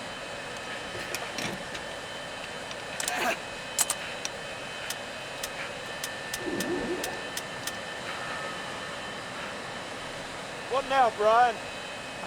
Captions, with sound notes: [ Grunts ] [ Pump Starting ] WHAT NOW, BRIAN ?